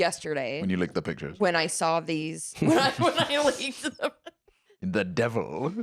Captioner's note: laughing